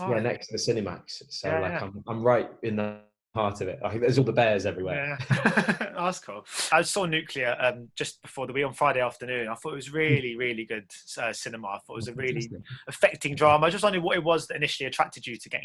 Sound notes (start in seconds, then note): 5.2 laughter